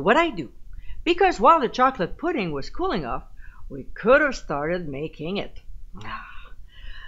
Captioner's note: sigh